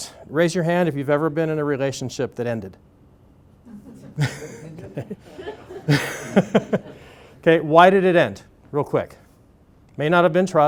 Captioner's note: laughter